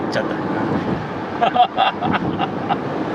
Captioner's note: laughs